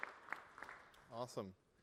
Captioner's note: applause